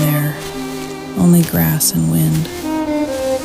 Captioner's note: the wind is blowing